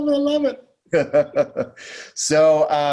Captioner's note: laughing